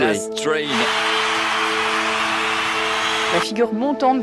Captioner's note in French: applaudissements